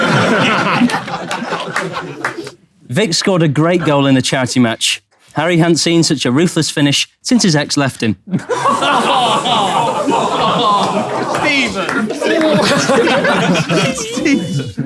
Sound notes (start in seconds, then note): 0.0 people in room laughing; 8.3 people in room laughing and groaning